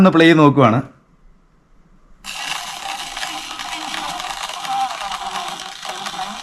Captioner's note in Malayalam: കരഘോഷം